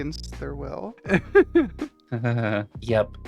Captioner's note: laughing